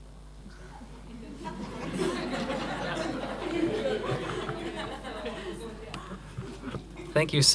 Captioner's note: laughter